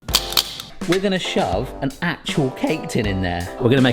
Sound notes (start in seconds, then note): 0.1 tongs snapping